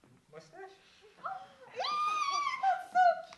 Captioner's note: excited squeals!